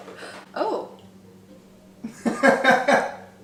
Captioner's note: gasps